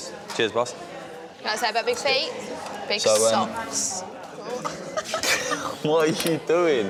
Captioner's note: laughs